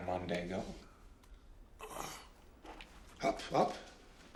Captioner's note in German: Atmet aus